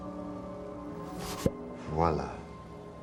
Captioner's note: <i> whoosh and pop</i>